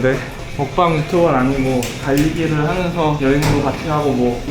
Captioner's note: food-eating